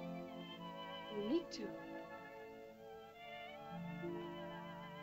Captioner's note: soft music; girl speaks in caveman language; soft music